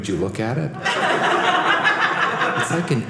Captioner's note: audience laughing